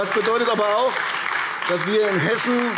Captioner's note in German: Beifall AfD